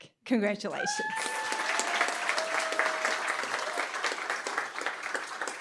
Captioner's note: cheering, applause